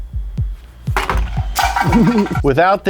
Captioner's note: container clattering